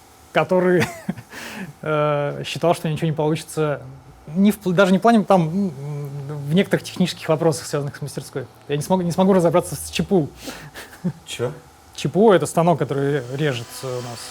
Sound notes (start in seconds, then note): 10.5 laughs